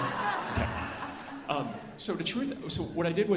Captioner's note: alumni laughing